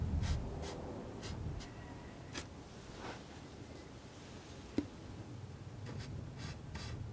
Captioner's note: scratching